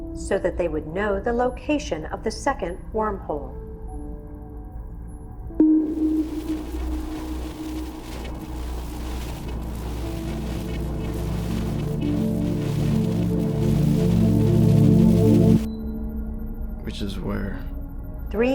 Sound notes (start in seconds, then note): 5.8 static buzzing; 5.8 slow ambient music